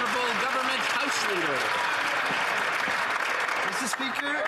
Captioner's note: some Applause